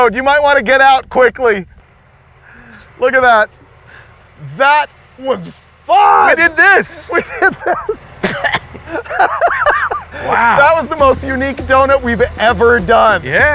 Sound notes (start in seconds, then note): 6.9 coughing; 8.8 laughing